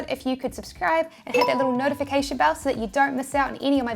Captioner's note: beeps